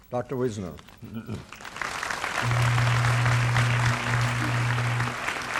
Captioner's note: applause